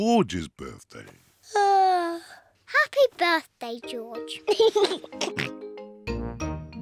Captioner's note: yawns; laughs and oinks